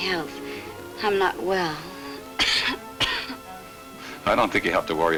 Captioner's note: coughs